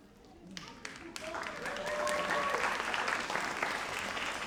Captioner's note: audience applauds